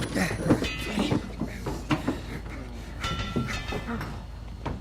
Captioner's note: metal clanging